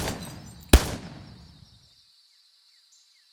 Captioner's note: gun firing